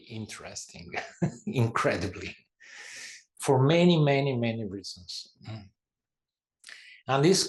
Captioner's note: laugh